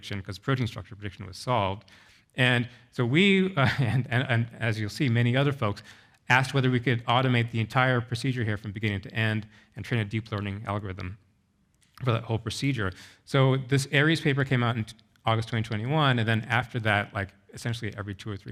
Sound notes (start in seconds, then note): 3.6 chuckles